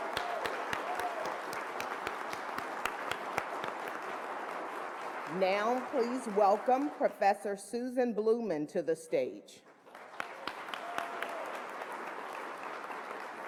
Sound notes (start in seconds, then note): 9.6 applause